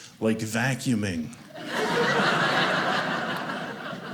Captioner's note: audience laughing